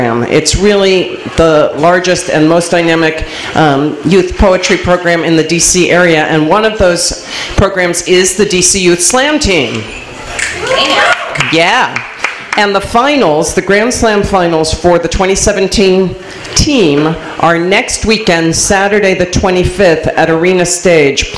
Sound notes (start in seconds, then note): 10.9 snaps